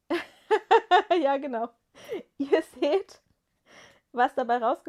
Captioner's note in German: gelächter